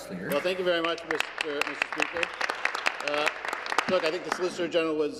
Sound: applause

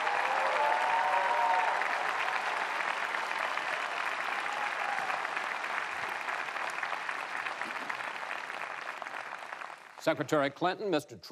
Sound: applause

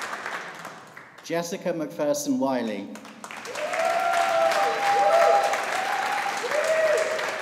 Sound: audience applauding

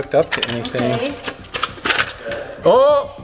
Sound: metal clatters

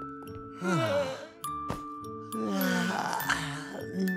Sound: yawning

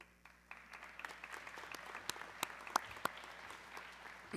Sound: audience clapping

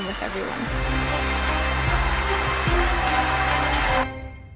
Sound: crowd cheering

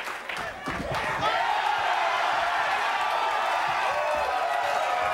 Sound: audience cheering

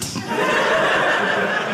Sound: audience laughing

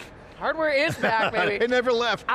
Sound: laughing

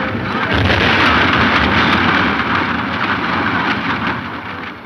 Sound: powder exploding

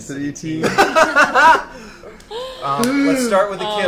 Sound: all laugh

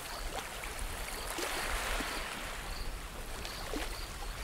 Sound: light ocean ambience

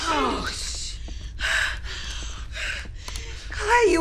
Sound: sighing

